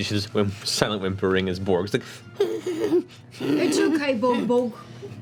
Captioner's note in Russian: всхлипывает